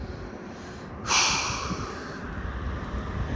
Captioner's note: exhales with throat